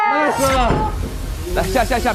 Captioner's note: escape hatch opened